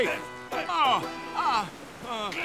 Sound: groaning

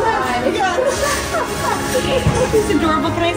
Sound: laughing

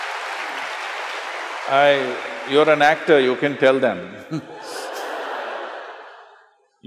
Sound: laughter/Applause; laughter

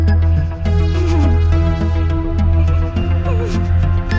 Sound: sobbing

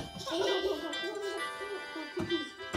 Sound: giggles

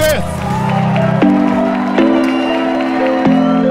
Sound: cheering

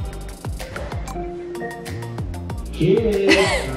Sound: Alexa bings

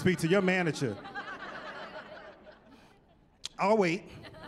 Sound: laughter

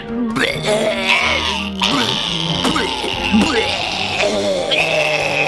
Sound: both retching loudly

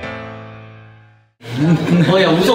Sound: laughing

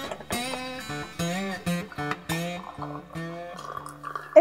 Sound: coffee pouring

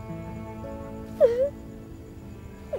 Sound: cries

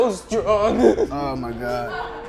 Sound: sobs

